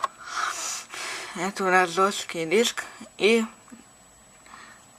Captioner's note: sigh